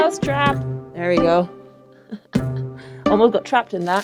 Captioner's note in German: lacht